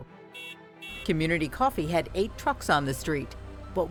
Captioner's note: car horn beeps